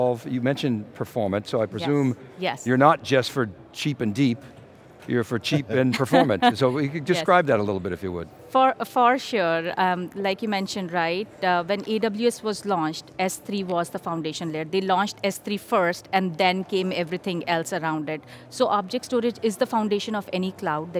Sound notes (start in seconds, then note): 5.8 laughing